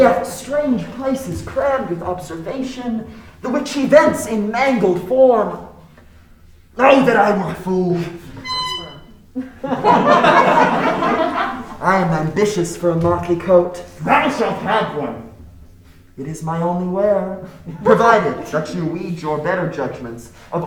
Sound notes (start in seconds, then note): 8.2 horn tooting; 9.3 crowd laughing